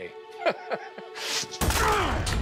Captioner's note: laughter